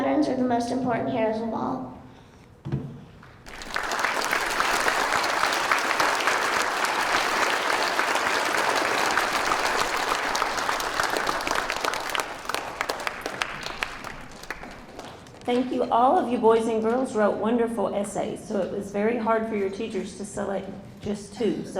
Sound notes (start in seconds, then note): 3.4 audience applauding